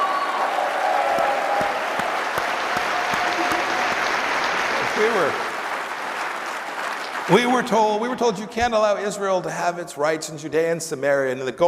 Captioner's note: applause